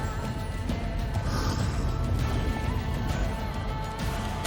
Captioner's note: epic battle music; deep, demonic growl; magical boom